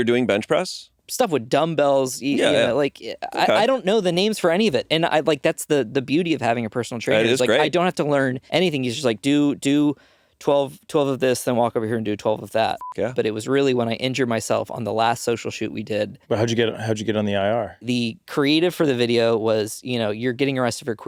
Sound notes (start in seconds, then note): 12.8 beeping